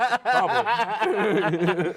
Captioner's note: laughing